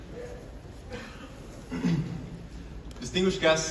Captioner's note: clears throat